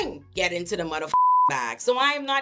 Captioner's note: beep